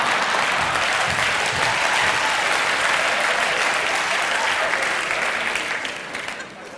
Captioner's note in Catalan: Aplaudiments